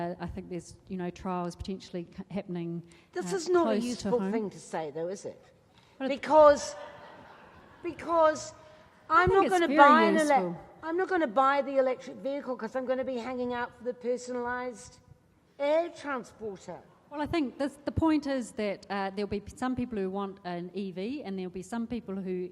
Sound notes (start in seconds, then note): 6.7 laughing